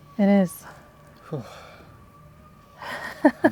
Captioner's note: sigh